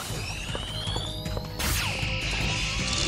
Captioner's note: lasers hums then fires